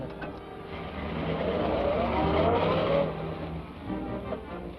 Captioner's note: engine revs